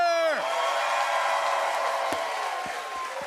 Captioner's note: cheers and applause